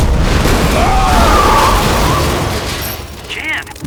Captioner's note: wind whistling